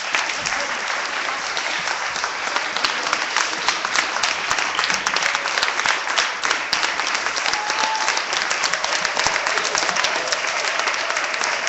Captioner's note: clapping